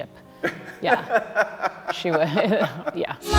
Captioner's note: laughing